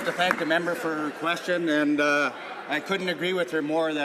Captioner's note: some laughter